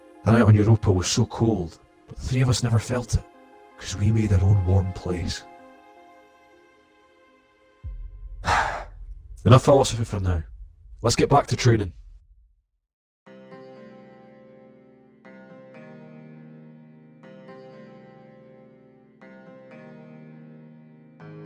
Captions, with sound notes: That night on Europa was so cold. But the three of us never felt it, because we made our own warm place. *SIGHS* Enough philosophy for now. Let's get back to training.